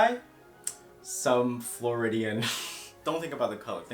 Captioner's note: laughs through nose